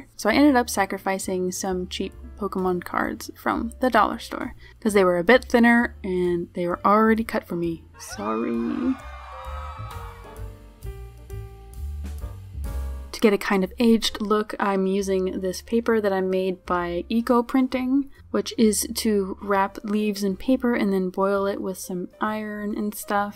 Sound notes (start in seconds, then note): 10.9 crowd screaming